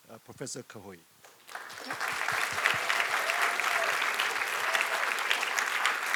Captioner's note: applause